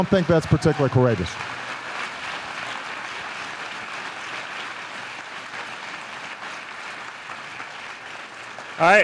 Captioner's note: applause